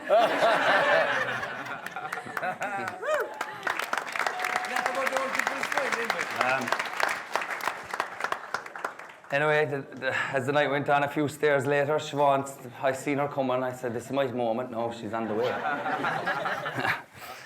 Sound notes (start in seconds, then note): 0.0 guests laughing; 1.6 guests clapping